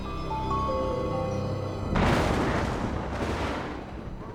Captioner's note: thunder crashing; wailing